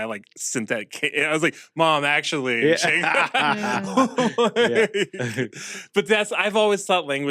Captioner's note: laugh